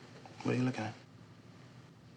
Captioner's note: none